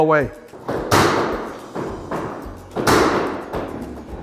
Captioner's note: banging